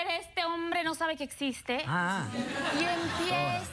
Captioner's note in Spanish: risas